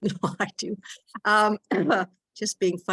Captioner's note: laughing